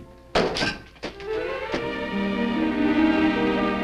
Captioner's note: hat thuds